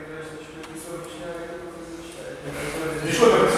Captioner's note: making small talk